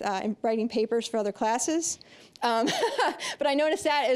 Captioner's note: laughing